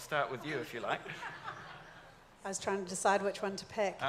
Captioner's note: audience laughs